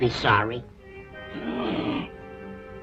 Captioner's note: grunt